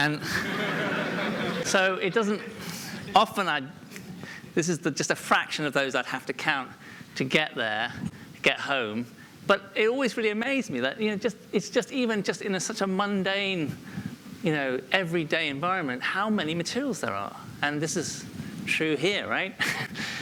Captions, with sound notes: (laughter) This is just a fraction of those I'd have to count to get there--to get home--but it always really amazed me that it's even just in a such a mundane you know, everyday environment how many materials there are. And this is true here, right?